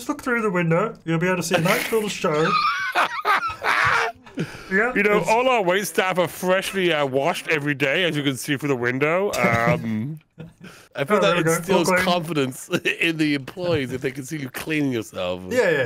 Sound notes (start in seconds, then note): 2.3 laughing